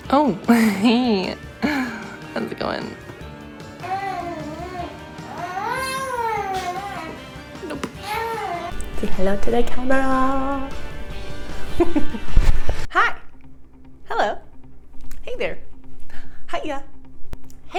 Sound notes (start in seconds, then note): 3.7 baby whines; 11.6 laughs